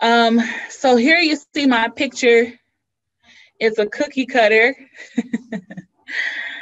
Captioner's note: laughs